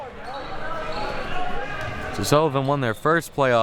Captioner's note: audience chattering and yelling